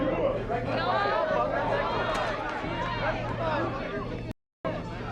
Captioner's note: loud Commotion